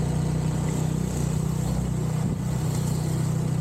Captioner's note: engine noise